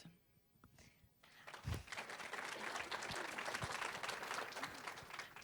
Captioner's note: applause